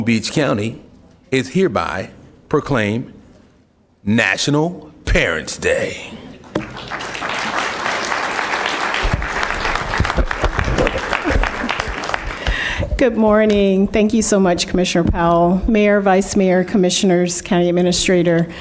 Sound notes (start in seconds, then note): 15.0 applause